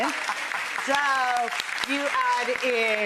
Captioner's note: applause